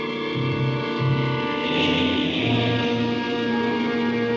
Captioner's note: horn honking